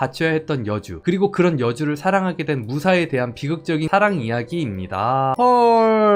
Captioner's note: voiceover